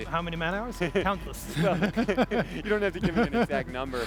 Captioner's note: both laugh